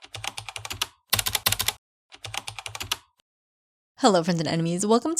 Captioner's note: typing